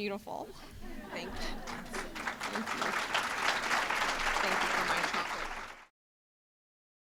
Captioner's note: applause